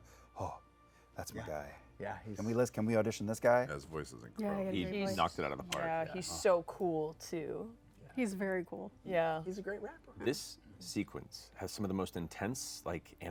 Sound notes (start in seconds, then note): none